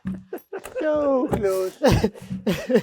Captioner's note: speaker laughing